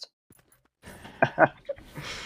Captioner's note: laughs